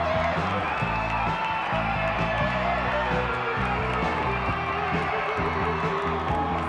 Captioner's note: upbeat rock music continues; crowd applauding; crowd cheering